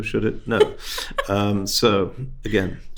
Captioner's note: host laughing